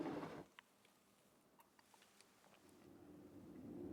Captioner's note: chair shuffling